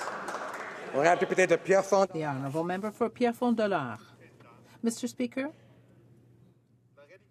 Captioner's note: some Applause